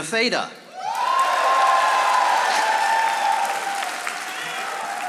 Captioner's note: audience applauding